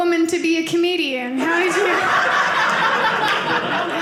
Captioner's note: audience laughing